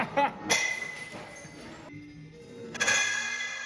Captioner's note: glass clinks; glass shatters